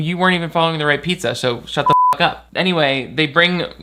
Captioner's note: beep